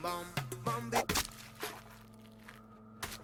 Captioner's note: flesh squelch